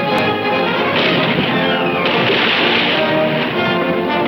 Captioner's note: cannon firing